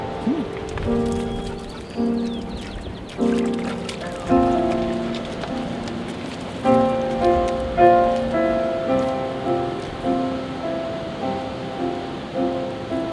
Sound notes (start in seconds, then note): 0.0 bird singing; 2.4 water splashing